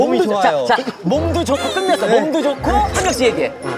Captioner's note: crying